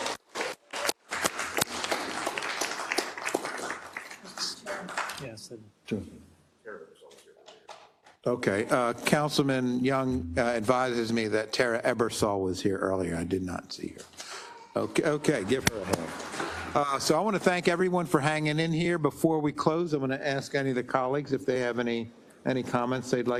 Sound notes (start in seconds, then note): 0.0 applause; 15.2 applause